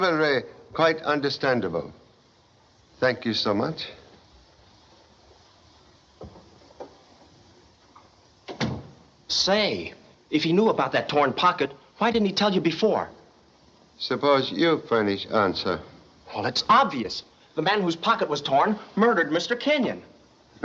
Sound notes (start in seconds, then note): 8.4 door Closes